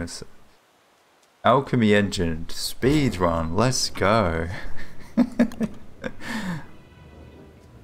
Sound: laughs; light uplifting music

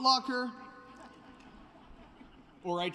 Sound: laughter

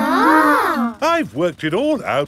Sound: children gasp in awe

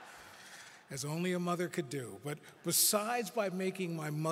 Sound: laughter

